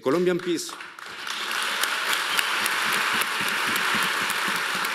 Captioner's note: audience applauding